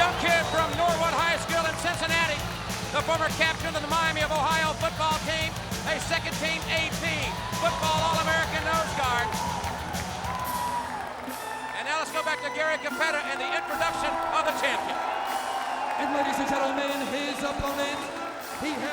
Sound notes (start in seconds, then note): 15.0 crowd cheering; 15.0 lively music